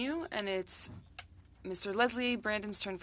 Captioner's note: speaking French